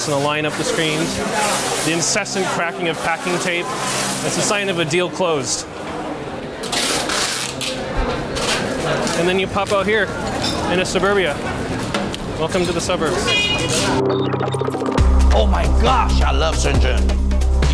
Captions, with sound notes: and line up the screens. The incessant cracking of packing tape. That's a sign of a deal closed. [packing tape cracking] And then you pop out here, and it's suburbia. Welcome to the suburbs. [energetic dramatic music] - Oh, my gosh, I love Shenzhen.